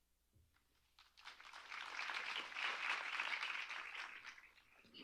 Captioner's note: applause